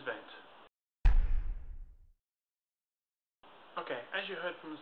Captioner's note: loud thud